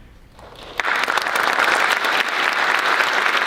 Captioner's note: applause